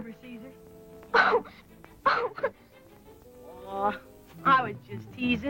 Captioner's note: crying